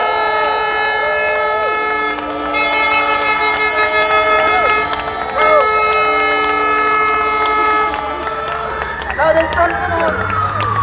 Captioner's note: applause